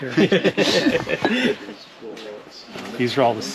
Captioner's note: all laughing